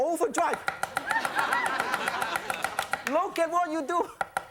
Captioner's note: chopping; audience laughing; chopping; audience clapping